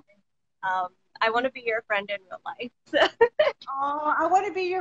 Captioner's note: laughs